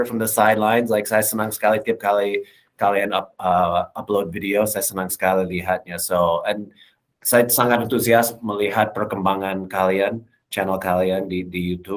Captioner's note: non-english speech